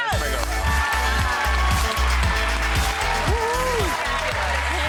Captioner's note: audience clapping